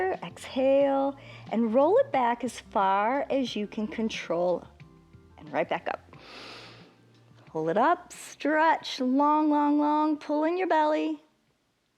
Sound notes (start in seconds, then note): 6.2 inhales